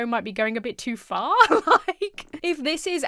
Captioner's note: laughs